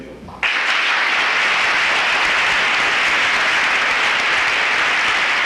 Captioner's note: applause